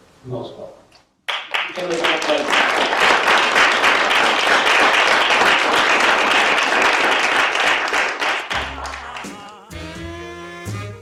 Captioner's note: applause